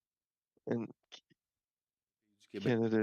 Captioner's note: speaking French